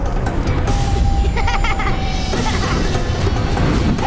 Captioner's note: laughing